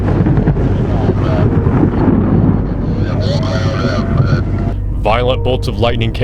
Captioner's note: radio chatter